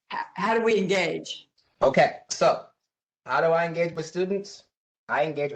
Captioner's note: professor speaking